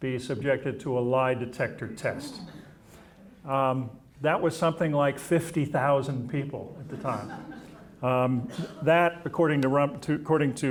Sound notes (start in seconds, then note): 6.8 audience chuckling